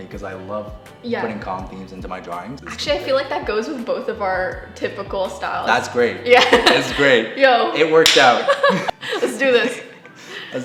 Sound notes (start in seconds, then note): 8.4 both laugh